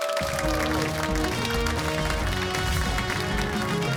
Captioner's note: cheers and applause